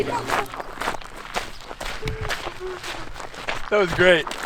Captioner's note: laughing